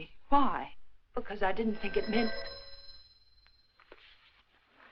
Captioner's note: phone rings